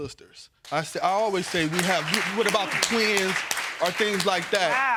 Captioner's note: audience applauding